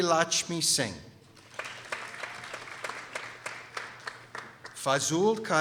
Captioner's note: people applauding